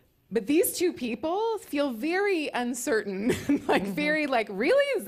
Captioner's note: laughs